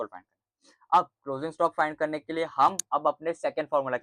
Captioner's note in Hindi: नाक से की जाने वाली आवाज़